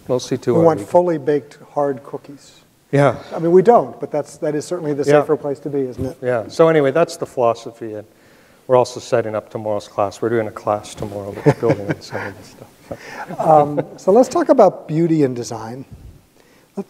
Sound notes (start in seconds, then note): 11.3 both laughing